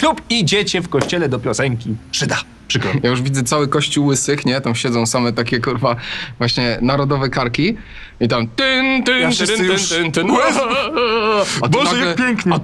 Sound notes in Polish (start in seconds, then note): 7.7 nucenie marszu weselnego; 10.1 odgłosy płaczu ze wzruszenia